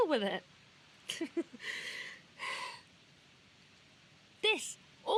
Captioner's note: laughs, half hysterical